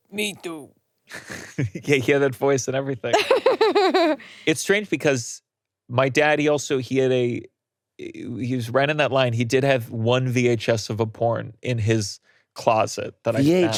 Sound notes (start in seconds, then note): 3.1 laughing